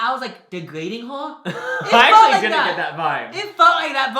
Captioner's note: laughing